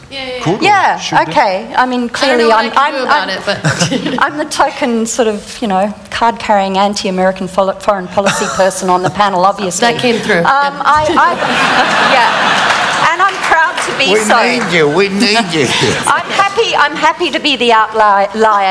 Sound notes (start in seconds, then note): 11.0 laughter